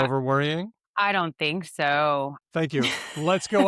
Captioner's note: laughs